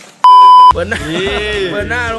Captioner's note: laughs